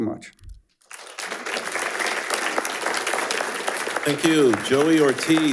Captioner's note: attendees applauding